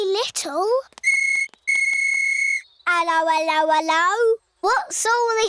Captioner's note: blows whistle